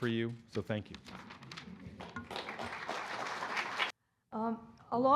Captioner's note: applause